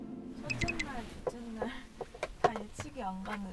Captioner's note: rustling